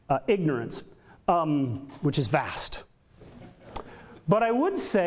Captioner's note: audience laughter